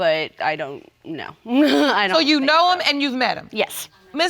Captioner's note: chuckles